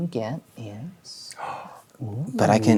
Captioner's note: gasps